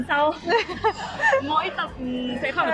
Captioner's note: nervous laugh